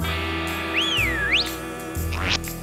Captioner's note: whistles